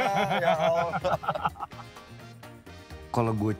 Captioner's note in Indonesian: Ketawa